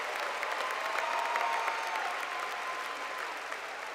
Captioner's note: cheers and Applause